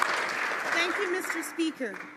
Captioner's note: some Applause